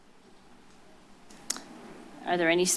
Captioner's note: clicks tongue